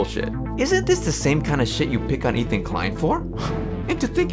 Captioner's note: scoffs